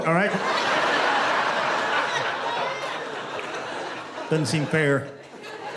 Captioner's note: laughter